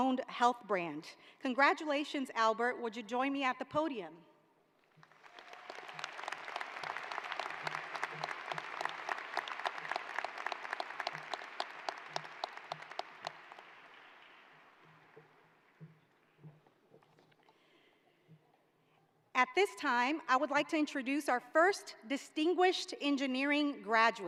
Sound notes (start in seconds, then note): 8.8 applause